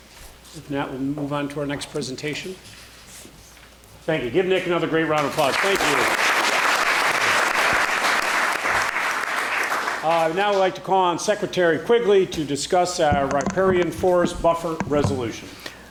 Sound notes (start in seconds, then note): 7.9 applause